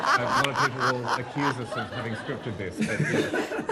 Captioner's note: laughter